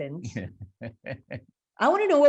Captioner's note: laughing